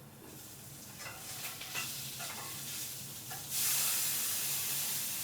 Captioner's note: salmon sizzling